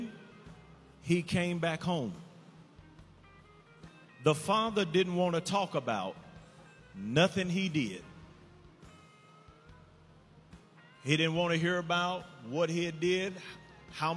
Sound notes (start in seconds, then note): none